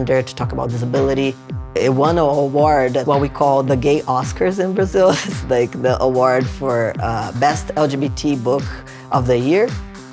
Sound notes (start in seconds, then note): 5.1 laughing